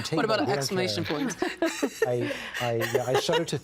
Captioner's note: laughing